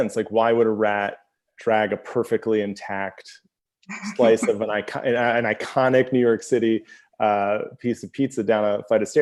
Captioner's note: laughs